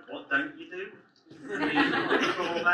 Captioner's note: audience laughs